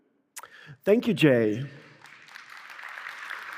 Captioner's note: applause